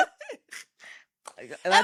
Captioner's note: laughing